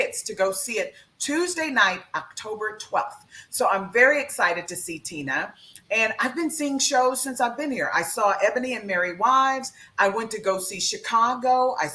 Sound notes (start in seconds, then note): none